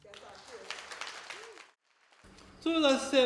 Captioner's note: applause